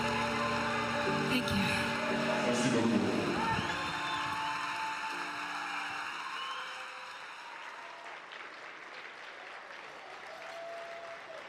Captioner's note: cheering and Applause